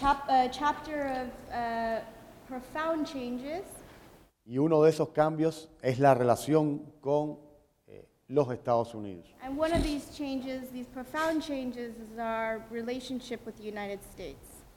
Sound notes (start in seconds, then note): 3.7 speaking in Spanish